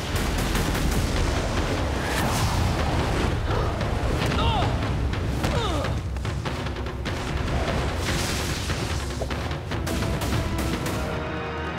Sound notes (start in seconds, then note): 5.3 groaning